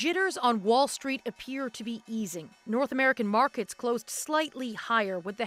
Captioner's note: applause